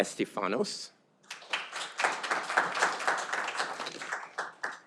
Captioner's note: audience applauding